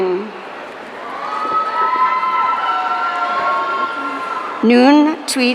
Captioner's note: audience cheering